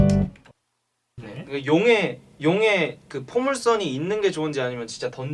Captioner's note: humming quietly